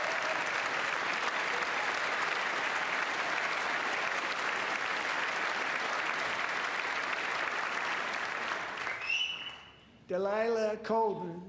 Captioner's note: applause